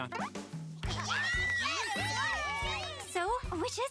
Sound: cheering

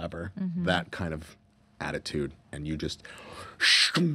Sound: hissing

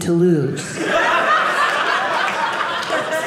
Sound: audience laughing

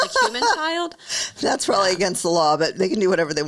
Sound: laughs

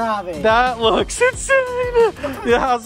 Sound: excitedly exclaims

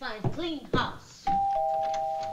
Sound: doorbell rings

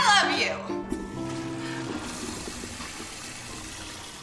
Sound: toilet flushes

